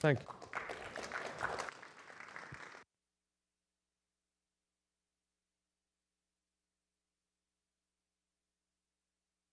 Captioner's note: applause